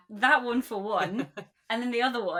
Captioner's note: laughs